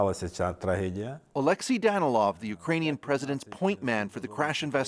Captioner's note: speaking foreign language